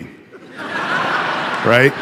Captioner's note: audience laughing